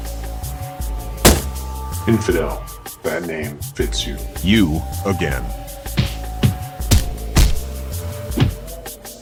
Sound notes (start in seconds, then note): 1.2 kick; 6.8 kicking; 8.4 thump